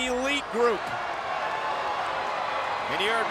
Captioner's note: audience cheering and clapping